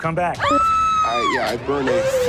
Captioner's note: Sofia screaming